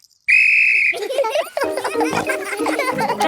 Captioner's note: blows whistle; giggling